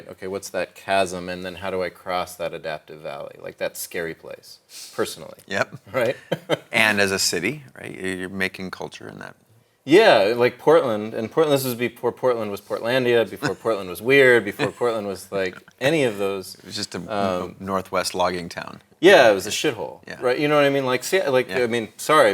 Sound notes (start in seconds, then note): 5.6 laughs